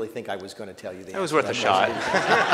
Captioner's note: laughter